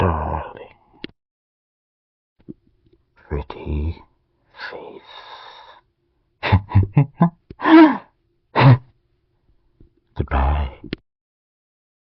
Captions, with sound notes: Darling... pretty face. (Laughs) Goodbye.